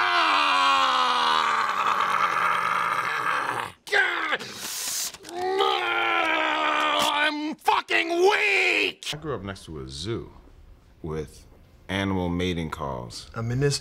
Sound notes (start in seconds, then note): 0.2 Key yelling; 4.5 paper ripping